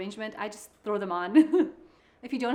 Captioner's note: chuckles